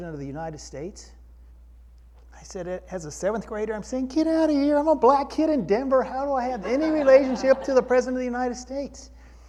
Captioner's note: crowd laughter